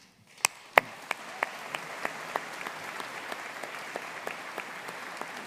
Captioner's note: audience cheering and applauding